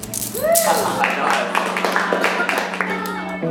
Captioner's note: cheers and clapping